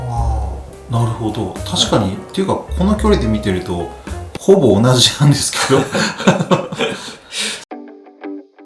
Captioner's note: laughs